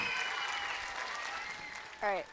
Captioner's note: people cheering